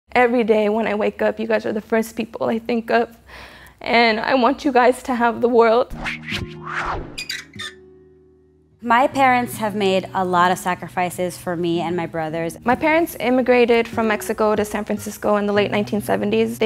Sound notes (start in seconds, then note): 5.7 acoustic guitar playing; 5.9 whooshing and creaking